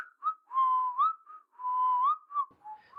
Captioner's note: whistles